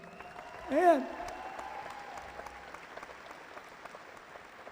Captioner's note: cheering